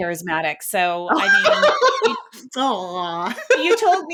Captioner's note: laughing